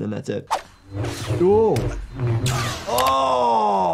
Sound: lightsabers crashing

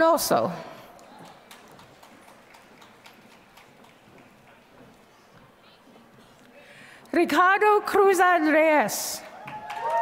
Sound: applause

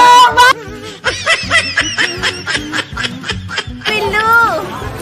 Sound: loughing

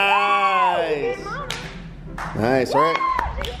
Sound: cheering

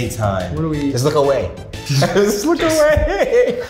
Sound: both laughing

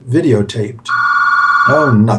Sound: phone rings

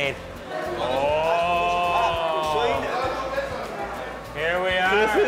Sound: men chattering

